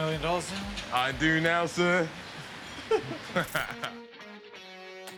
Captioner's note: laughs